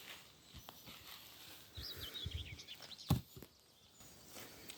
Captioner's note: leaves rustling